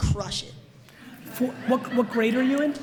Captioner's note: audience laughs